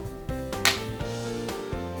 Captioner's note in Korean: 탕!